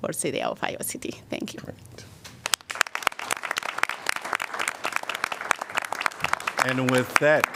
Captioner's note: applause